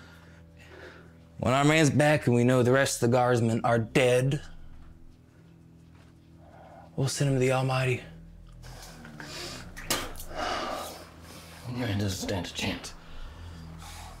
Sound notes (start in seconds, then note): 8.6 mouth spits